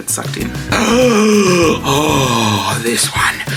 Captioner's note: gasps